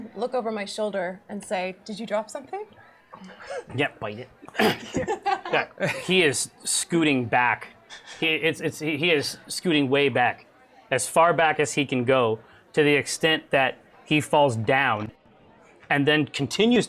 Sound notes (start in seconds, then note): 3.3 whispers; 4.4 laughs